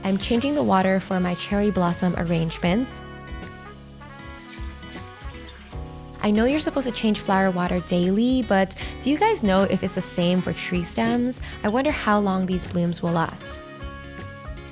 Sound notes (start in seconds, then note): 3.2 gentle uplifting music; 4.8 water gushing